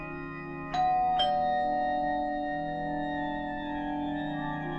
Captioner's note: door bell rings